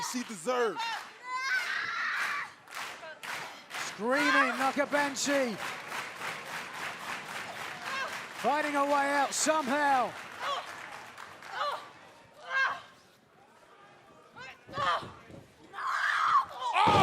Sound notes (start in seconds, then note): 2.0 crowd cheering